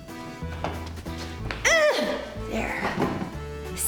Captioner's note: grunts